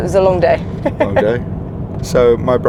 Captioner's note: laughs